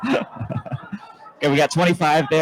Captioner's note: more laughter